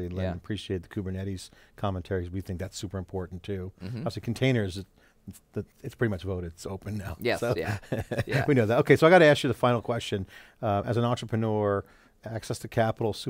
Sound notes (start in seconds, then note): 7.4 laughs